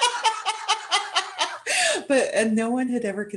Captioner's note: exuberant laughter